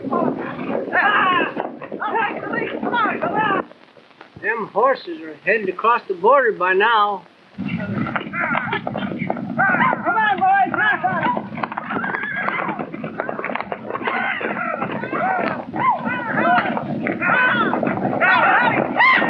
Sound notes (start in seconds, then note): 8.6 horses whinnying; 9.6 men shouting